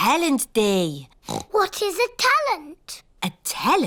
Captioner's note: oinks